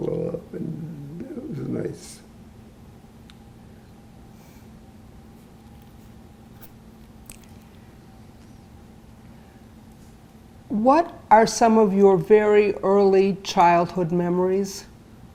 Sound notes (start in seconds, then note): 2.4 pauses 8 seconds